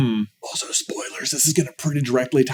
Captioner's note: whispers